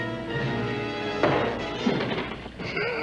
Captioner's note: pounding at door; laughs